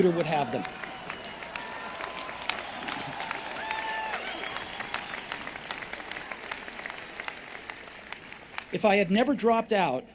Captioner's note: applause